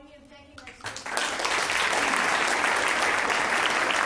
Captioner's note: applause